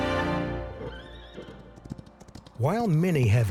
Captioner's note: horse neighs